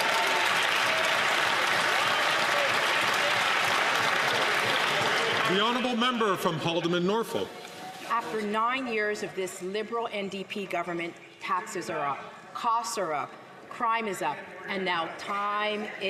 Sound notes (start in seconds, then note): 1.9 some Applause